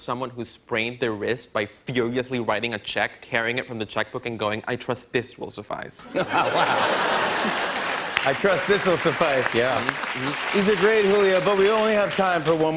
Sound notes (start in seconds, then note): 6.0 laughter